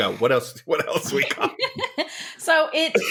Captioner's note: laughter